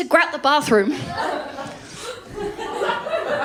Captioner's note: laughter